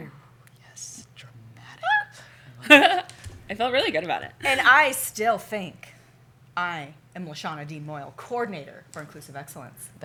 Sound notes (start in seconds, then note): 2.6 laugh